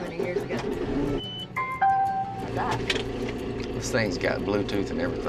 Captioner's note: beeping, tractor engine starts